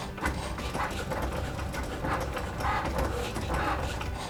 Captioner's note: printer sputtering